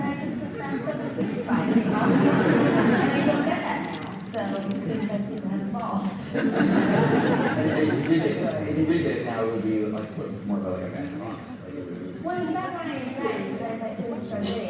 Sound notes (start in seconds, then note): 0.6 audience laughs; 6.3 audience laughs